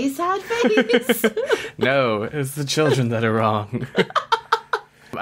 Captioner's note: laughs